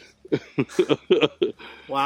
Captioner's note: laughing